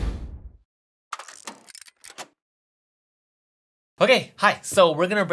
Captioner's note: clattering